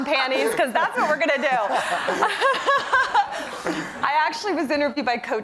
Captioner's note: laughter